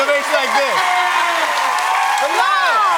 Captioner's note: cheers and applause